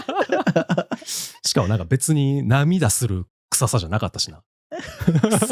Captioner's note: laughs